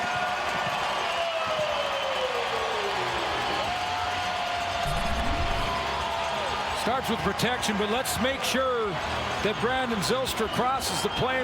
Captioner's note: cheering and Applause